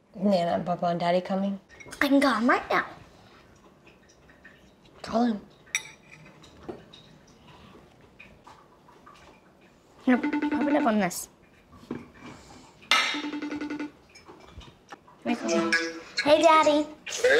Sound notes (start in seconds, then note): 10.1 phone rings; 12.8 ringing continues